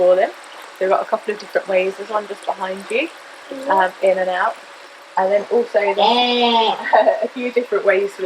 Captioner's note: penguins Brays; laugh